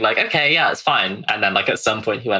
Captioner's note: laughing